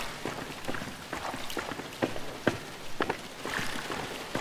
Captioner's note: splashing footsteps